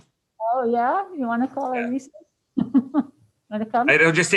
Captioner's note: laughs